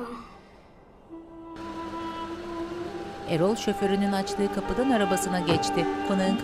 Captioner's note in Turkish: Araba sesi; Kapı kapanma sesi